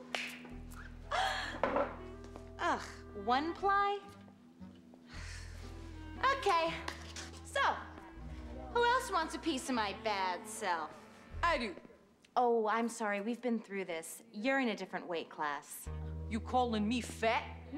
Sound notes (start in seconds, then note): 0.1 chuckles; 2.7 groa ns